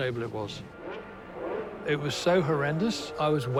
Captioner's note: engine revving